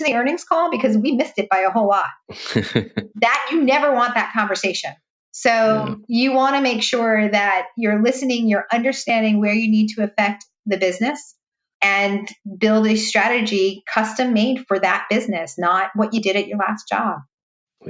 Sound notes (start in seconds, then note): 2.3 laughing